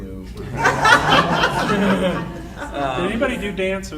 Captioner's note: audience laughing